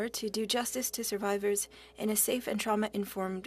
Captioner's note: speaking French